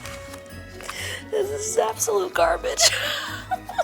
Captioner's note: laughs